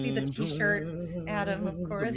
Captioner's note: humming dramatically